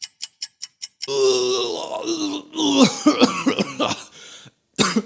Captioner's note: vomiting